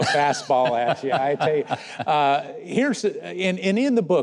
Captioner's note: Mike laughing